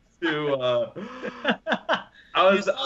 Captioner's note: laughing